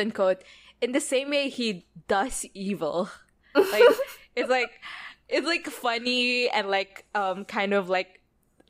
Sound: laughs

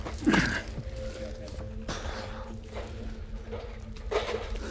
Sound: groaning

